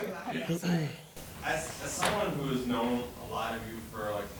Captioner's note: laughter; quietly